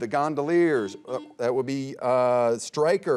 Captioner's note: buzzer beeping